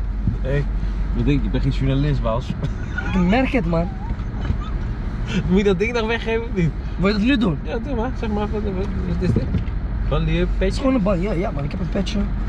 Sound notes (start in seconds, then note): 3.8 laughing